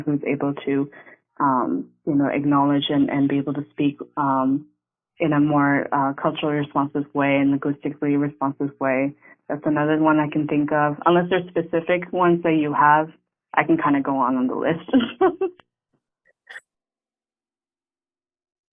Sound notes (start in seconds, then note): 15.1 chuckling